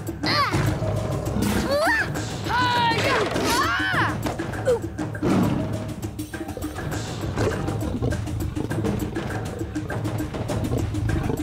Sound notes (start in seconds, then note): 5.1 roars; 8.5 snarling